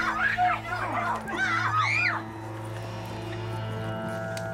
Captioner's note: screaming